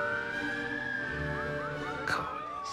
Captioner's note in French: sirènes